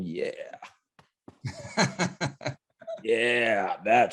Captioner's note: laughing